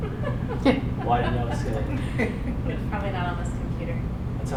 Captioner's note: audience laughing